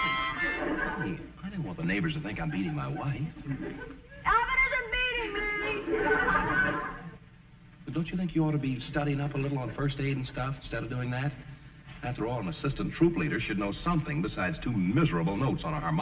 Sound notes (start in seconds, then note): 8.5 audience chuckling